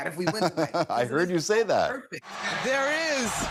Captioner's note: laughter